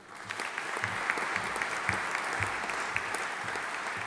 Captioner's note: audience applauding